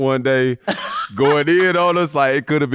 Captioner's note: laughing